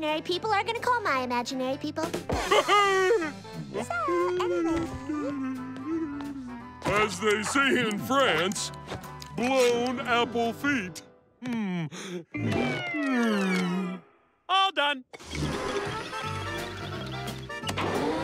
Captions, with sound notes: are going to call my imaginary people. [laughing] So, anyway. [humming] As they say in France, blown apple feet. Mm. All done.